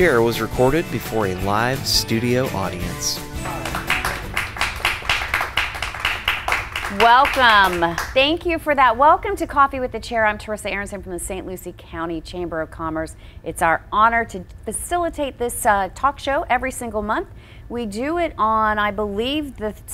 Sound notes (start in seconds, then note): 2.9 audience clapping